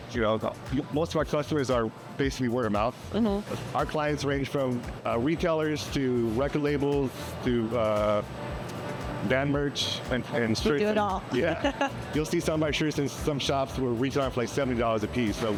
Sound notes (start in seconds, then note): 11.4 laughing